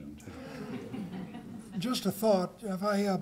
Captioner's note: laughter